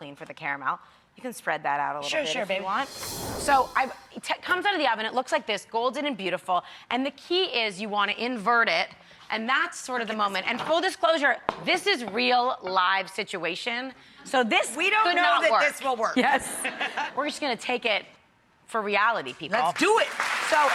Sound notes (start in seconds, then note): 16.5 audience laughing